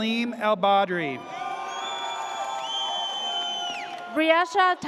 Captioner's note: audience cheers